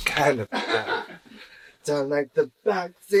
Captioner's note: awkward laugh